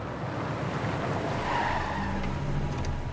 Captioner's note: tire squeal